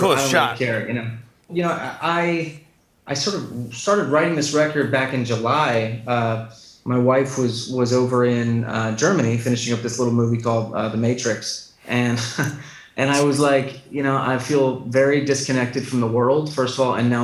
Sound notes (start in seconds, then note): 12.1 chuckles